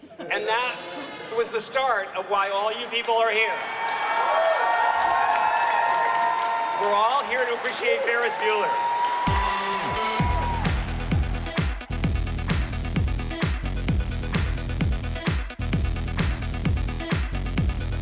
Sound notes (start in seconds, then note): 3.4 audience cheering; 9.2 electronic music